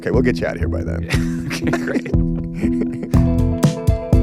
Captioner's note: Chris laughs; upbeat music